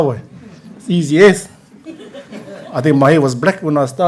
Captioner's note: laughter